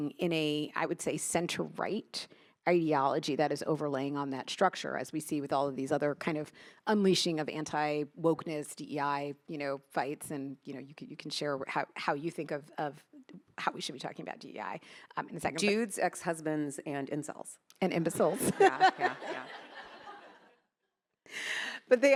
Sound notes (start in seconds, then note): 18.2 attendees laughing; 18.4 laughs